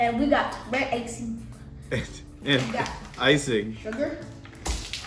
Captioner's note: laugh